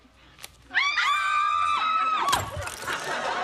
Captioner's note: all screaming